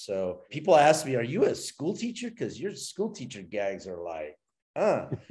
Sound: impressed grunt

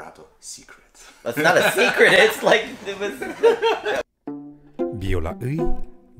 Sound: laugh

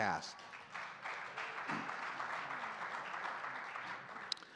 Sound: audience clapping

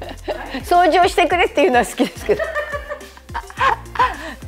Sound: laughter

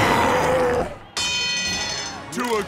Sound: roaring; dinging

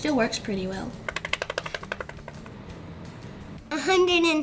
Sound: picture paper clicking

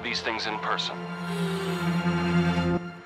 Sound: gasping

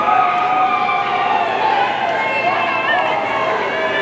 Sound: audience cheering

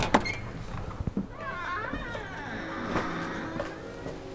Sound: door creaking

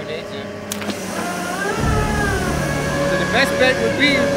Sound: machinery screeches

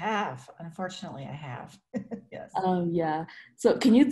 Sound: laughs

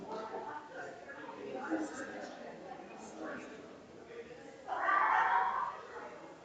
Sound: people chattering distantly continues

